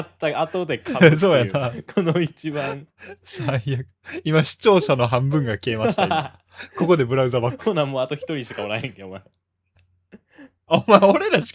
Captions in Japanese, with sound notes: 1番 最悪。今視聴者の半分が消えました。今ここでブラウザバック。 [笑い] ほなもうあと1 人しかおらへんけ。お前お前俺らしか見てへん。ブランサバックすんな。